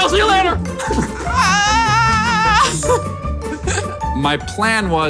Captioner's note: yelling and laughing